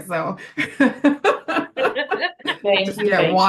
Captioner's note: laughs